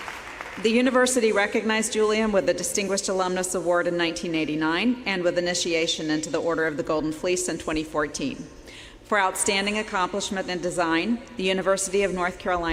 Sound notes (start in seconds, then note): 1.9 applause